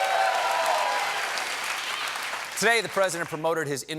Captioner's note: applause